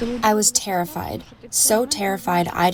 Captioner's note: through translator